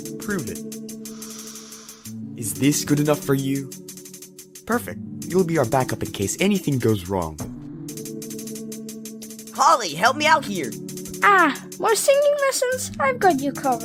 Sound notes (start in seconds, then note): 1.1 inhale